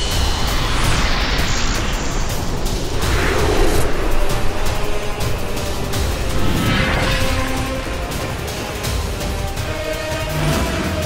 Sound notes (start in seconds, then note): 0.6 whirring sound